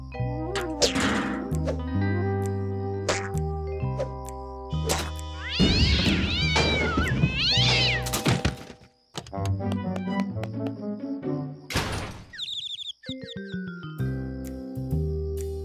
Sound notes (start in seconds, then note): 5.4 cat yowls; 12.2 birds chirping